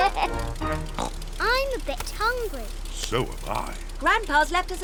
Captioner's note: oinks